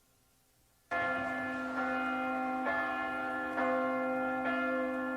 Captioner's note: bells ringing